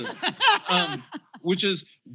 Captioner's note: laughter